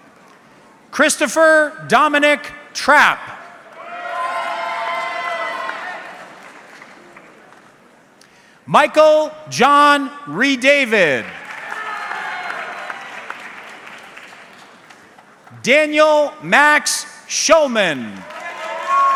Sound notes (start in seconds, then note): 3.8 audience cheering; 11.2 audience clapping